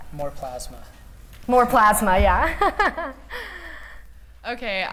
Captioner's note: laughter